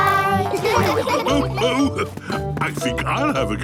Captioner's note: laughs